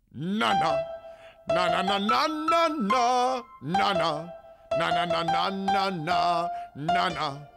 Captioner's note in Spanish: Juan Carlos Bodoque toca y tararea una melodía